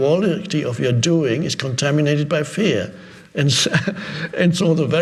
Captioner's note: chuckles